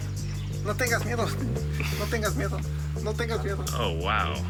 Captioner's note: chuckles